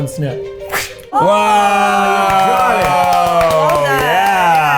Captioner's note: clapping